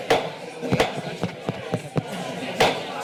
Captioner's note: gavel thuds; mic tapping